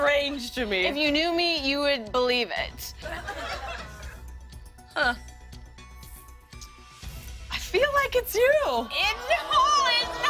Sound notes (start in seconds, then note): 3.0 laughter